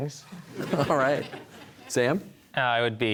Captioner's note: audience laughter